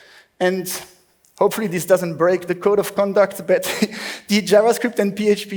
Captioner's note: laughs